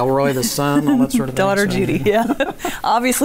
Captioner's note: laughing